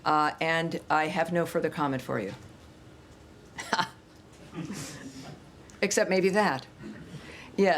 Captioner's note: laughter